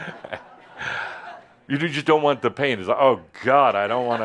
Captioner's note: laughter